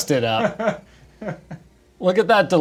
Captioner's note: man laughing